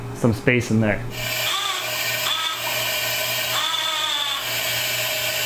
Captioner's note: machine screeching